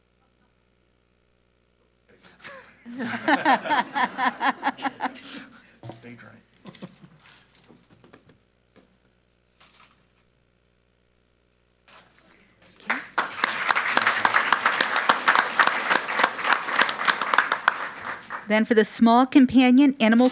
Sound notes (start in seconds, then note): 2.4 all laughing; 12.7 audience applauding